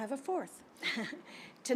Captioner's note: chuckles